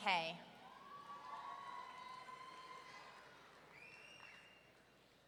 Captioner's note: audience cheering